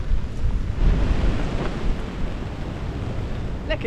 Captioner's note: wind & rain